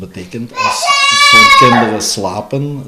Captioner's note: an excited voice of while she watches TV